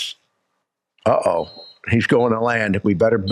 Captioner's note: whistle blows